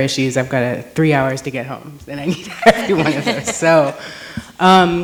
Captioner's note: chuckles